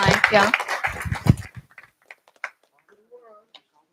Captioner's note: applause